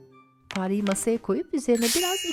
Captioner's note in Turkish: Zıplama sesi; Püskürtme sesi